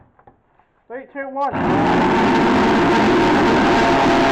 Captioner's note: drilling